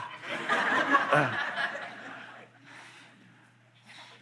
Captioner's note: audience laughing